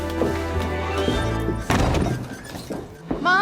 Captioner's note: door slams